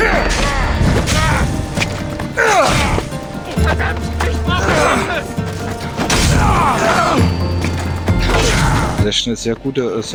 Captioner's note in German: stöhnen